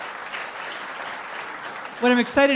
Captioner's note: applause